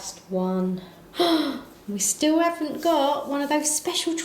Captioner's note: gasps